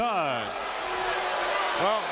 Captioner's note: audience cheering